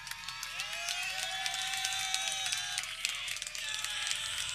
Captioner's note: people cheering